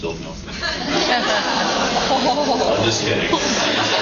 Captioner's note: laughs and awws